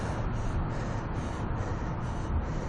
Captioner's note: poIice siren; panting